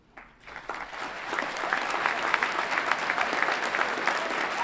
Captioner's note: everyone clapping